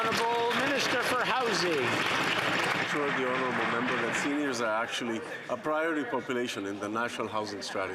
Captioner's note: some Applause